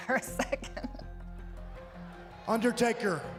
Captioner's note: chuckles